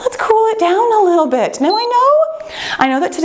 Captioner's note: timer beeps